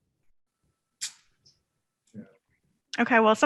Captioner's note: clicking tongue